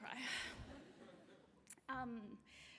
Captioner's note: laughter